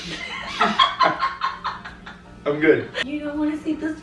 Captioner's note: laughing